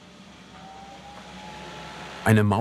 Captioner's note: high humming noise